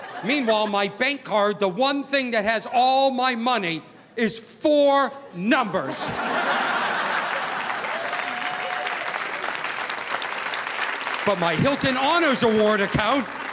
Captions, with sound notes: Meanwhile, my bank card, the one thing that has all my money is four numbers. (audience laughing) (audience applauding) But my Hilton Honors Award account